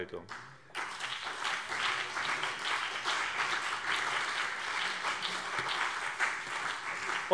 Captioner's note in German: Beifall BÜNDNIS 90/DIE GRÜNEN und CDU